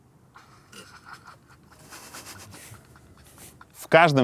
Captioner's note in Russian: Оператор за кадром давится смехом